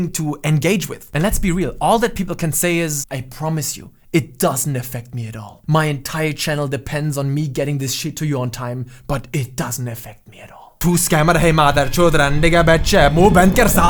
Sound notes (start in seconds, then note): 11.4 curses in hindi